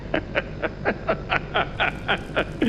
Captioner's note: laughter